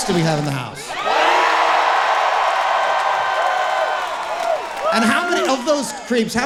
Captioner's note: audience cheering and clapping loudly